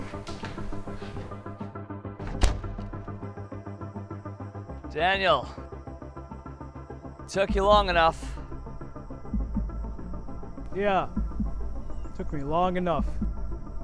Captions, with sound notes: (door slamming) Daniel, took you long enough. (unsettling music) - Yeah, took me long enough.